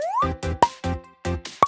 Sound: pop

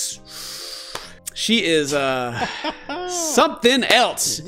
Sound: hahaha

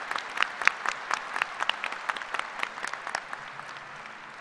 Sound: applause

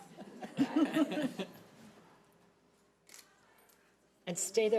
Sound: audience laughing

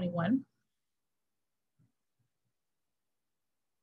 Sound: silence

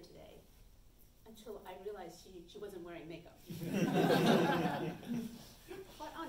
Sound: audience chuckles

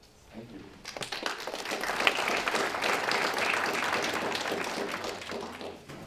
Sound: applause

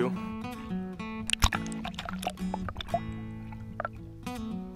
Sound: sound of fish in water

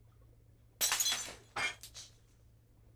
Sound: glass clatters

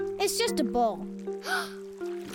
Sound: gasps

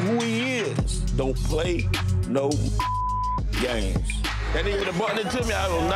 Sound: beep

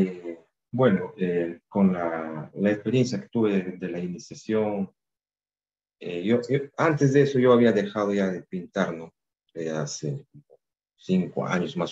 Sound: speaking in spanish

